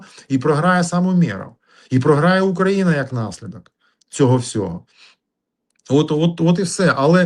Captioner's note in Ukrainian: сопіння